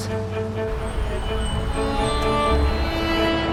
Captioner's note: sound of traffic; sound of airplane in the air